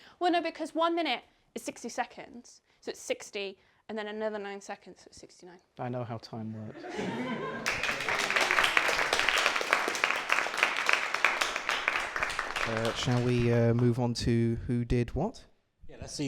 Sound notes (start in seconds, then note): 6.7 laughter; 7.6 applause